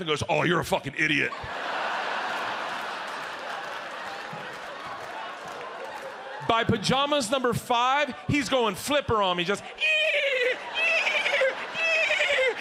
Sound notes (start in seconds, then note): 1.2 audience laughs; 9.7 imitates dolphin